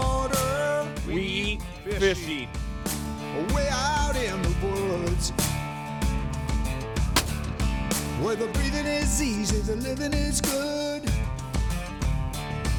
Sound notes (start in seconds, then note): 4.3 gunshot